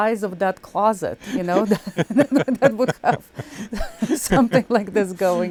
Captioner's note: laughing; both laughing